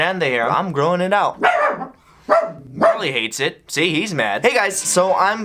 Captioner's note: dog barking